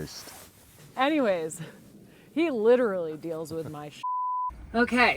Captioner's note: beep